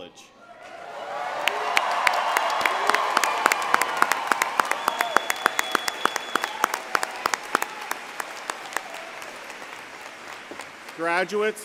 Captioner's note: cheering and Applause